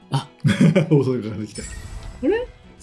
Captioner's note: laughs